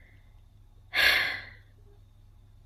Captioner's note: sighs tiredly